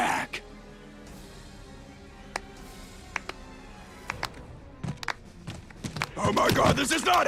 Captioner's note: slow Clap